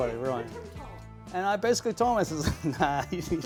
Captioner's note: laughs